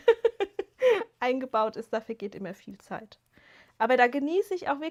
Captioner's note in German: gelächter